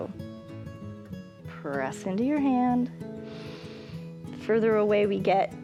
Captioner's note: inhales